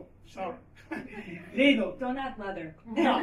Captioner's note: laughter